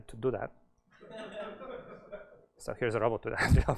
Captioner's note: laughter